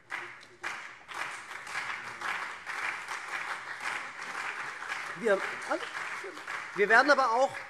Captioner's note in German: Beifall SPD und vereinzelt CDU